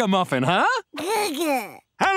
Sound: babbling

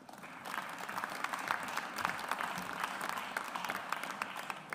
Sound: audience applauds

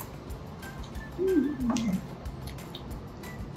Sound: happy noises

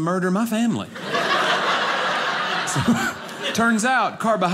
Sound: audience laughing

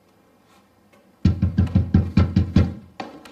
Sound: knocking

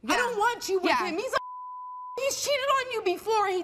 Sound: beep

